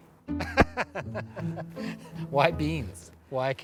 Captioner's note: laughs